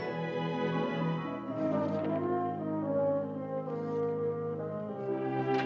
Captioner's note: uplifting music; cash rustling; uplifting music